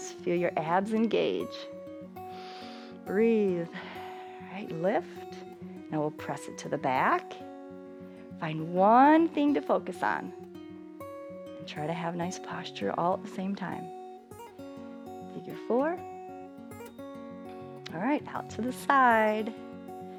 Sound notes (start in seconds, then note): 2.2 exhales; 2.2 inhales